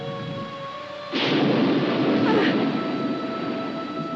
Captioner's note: thunder cracks